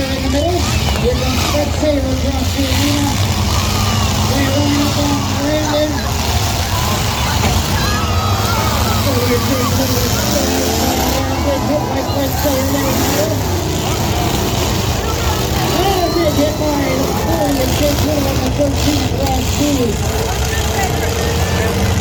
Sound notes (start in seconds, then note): 6.5 crowd reacts to crashes; 8.9 cars wreck; 18.5 crowd cheers